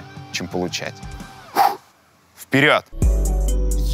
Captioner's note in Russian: резко выдыхает; музыкальная заставка